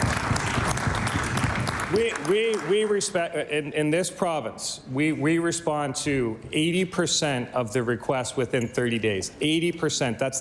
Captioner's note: applause